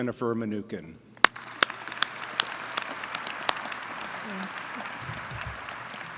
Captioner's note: applause